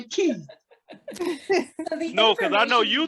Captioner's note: students laughing